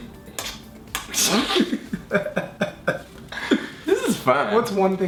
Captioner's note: laughing